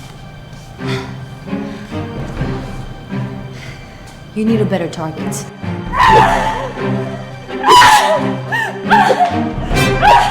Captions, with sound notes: (tense music) You need a better target. (both grunting)